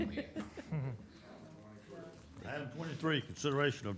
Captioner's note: laughter